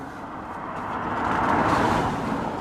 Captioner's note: car whooshes past